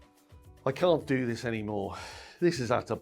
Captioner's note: casual music; sighs